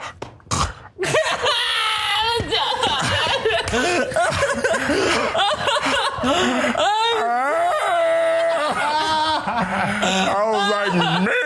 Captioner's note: laugh